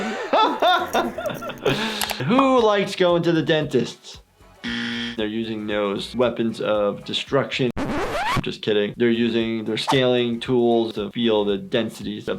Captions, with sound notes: (laughing) Who likes going to the dentist? (buzzer buzzes) They're using those weapons of destruction. Just kidding. They're using their scaling tools to feel the densities